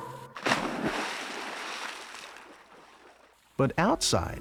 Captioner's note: water splashing